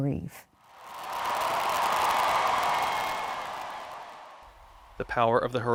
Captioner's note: crowd applause